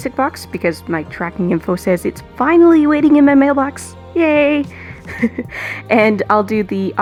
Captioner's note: laughs